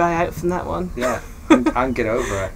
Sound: laughing

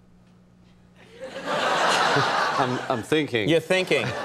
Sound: laughter

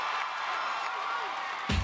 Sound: crowd screams

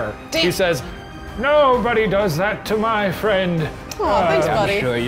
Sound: English accent

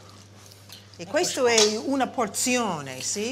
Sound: italian

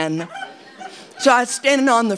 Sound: audience laughing

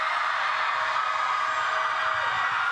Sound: cheering

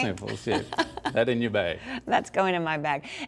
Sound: laughs

